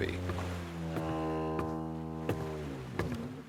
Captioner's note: footsteps on deck, approaching